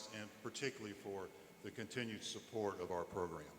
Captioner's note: none